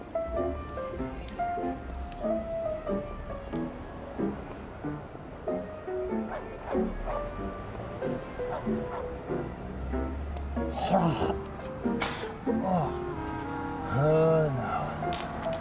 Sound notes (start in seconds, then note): 0.2 soft jazz music; 8.4 dog barks; 10.6 narrator groans